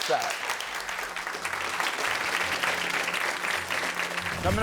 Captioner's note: audience applauding